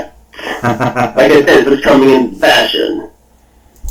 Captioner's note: laughs